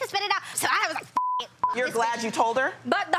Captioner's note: beep